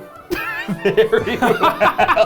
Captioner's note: laughing